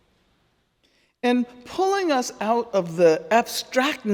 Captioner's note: none